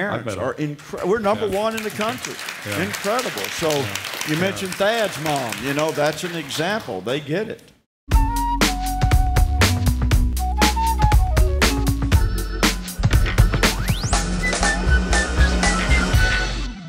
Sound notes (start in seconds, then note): 1.3 applause; 8.1 musical outro